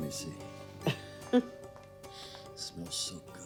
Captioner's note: giggling